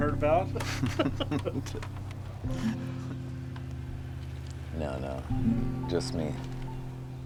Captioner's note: laughs